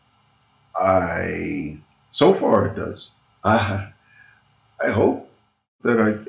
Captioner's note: chuckling